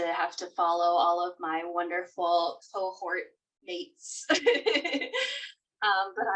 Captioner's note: laughing